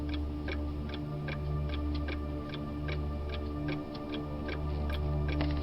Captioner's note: clock ticking continues